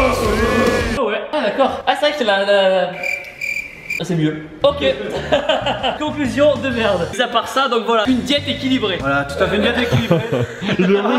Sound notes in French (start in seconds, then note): 2.9 sifflement d'oiseau; 5.0 rire